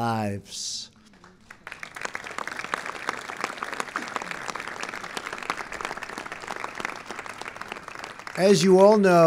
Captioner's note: applause